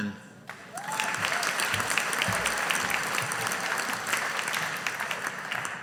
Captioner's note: audience applauding